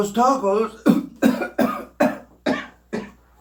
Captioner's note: coughs